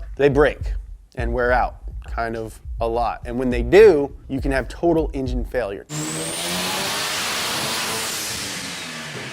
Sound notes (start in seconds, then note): 5.9 engine revving